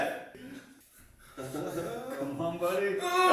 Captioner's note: laughing